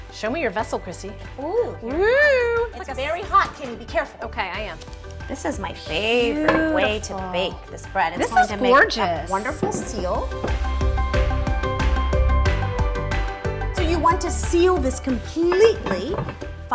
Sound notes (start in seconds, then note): 1.6 wooing; 10.6 upbeat music